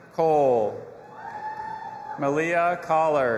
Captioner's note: audience applauding and cheering